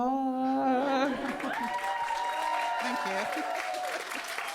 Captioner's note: audience cheering